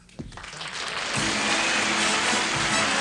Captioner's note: applause